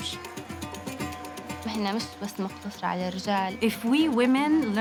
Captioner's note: speaking Arabic